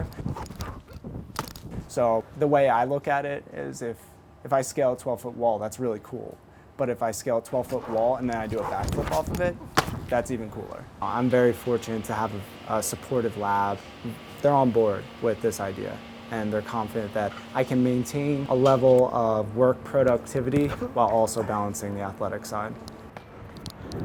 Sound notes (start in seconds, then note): 0.2 feet landing; 8.4 feet landing